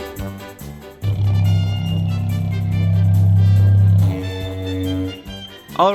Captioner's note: burps_out_loud